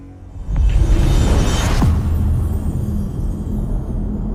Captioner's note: dramatic sound